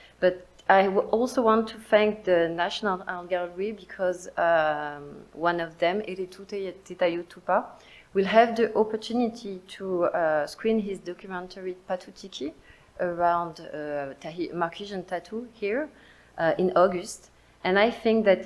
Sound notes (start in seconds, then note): none